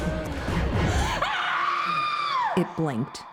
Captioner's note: Anne screams